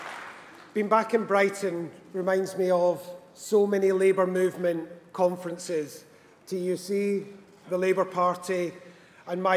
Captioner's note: applause